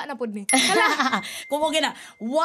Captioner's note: laughs